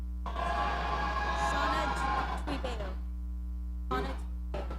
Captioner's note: audience cheering